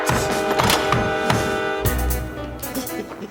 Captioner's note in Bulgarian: Да блъска по DOOR; смее се